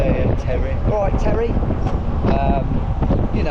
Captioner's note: cockney accent